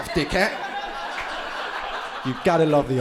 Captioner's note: crowd laughing